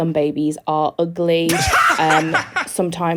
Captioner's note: Dan and Phil laughing